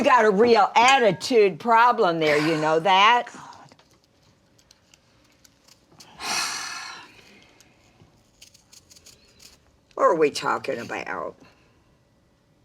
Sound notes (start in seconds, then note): 6.1 Mama exhales